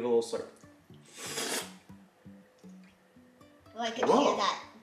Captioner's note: slurping